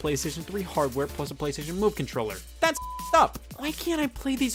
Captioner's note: beep